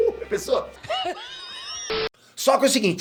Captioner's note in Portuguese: Risada